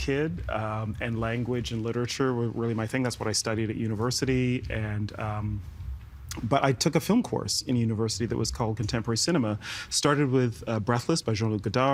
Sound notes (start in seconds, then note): none